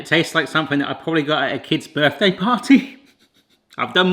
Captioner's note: chuckles